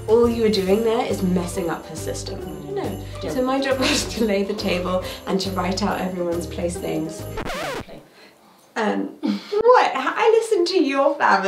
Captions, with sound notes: All you are doing there is messing up her system. So my job was to lay the table and to write out everyone's place names. (record scratches) What? I listened to your family!